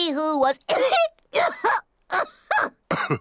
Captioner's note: coughs